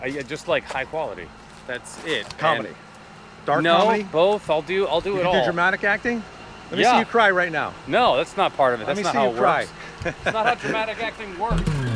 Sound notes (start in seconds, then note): 9.7 chuckles